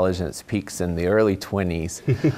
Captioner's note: laugh